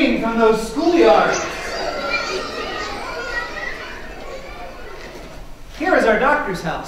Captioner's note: children playing sounds